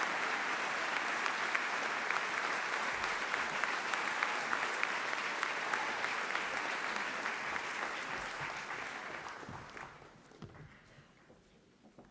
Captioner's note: applause